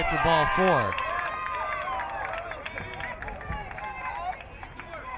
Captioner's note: crowd cheering